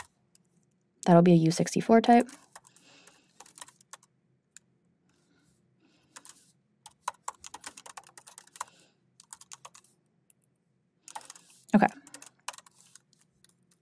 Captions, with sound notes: That'll be a U64 type. (keyboard clacking) Okay.